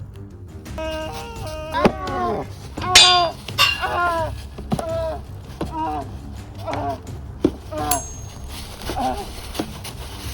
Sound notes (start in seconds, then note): 2.2 fighting noises